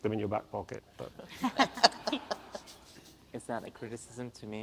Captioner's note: audience laughs